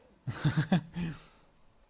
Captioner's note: laugh